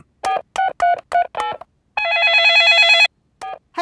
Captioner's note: dialing; cell phone ringing